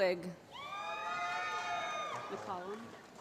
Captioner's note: applause